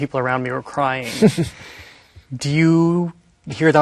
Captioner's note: chuckling